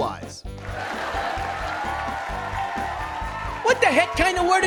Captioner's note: audience laughs and cheers